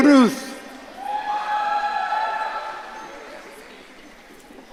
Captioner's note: audience cheering